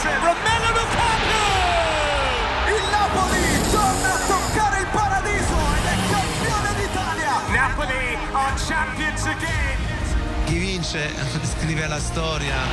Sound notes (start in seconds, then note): 5.5 Kart sound